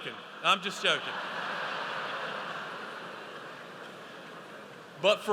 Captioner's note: audience laughs